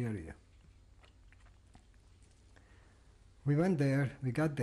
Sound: pauses for 3 seconds

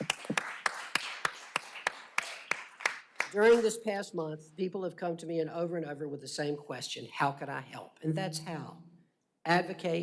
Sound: applause

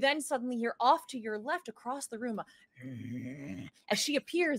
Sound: grumbles

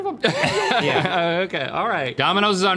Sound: all laughing

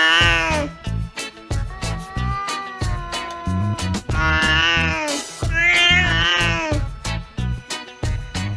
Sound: somali Cat Yowls; himalayan Cat Moan and Yowling

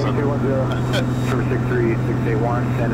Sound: laughs

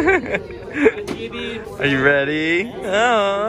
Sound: laughing

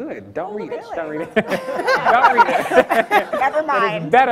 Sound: laughs

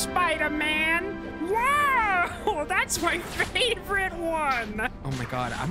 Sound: laughing

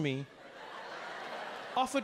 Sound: audience laughing

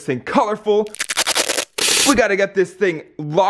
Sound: tape unsticking

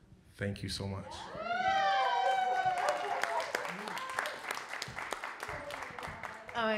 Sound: audience cheering and applauding

